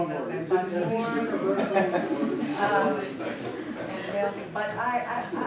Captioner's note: laughter